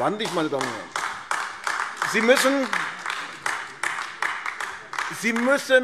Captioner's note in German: Beifall AfD